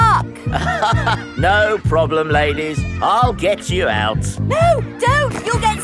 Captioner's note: chuckles